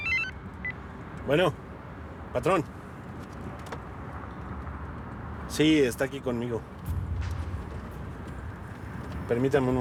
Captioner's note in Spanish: suena el celular